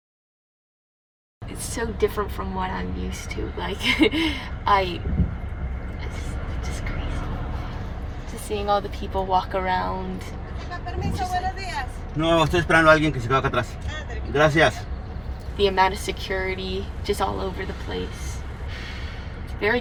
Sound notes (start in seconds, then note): 3.8 chuckles; 10.0 woman speaking spanish; 12.4 man speaking spanish